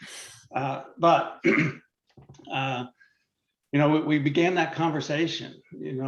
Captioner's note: clears throat